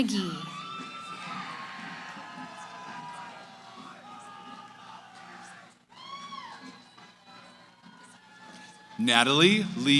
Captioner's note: cheering